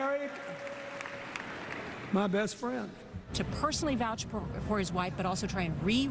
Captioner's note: cheering